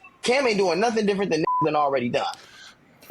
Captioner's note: beep